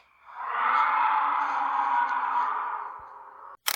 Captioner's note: grrrrraaaahhhk!